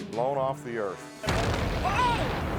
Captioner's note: explosion booming